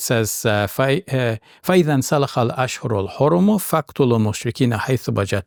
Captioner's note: speaking in Arabic